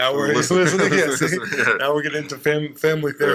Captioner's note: laughs